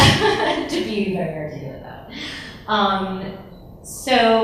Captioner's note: laughs